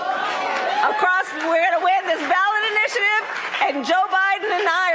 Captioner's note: applause